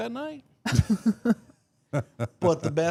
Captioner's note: Mark laughs